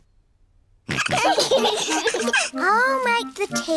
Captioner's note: all laughing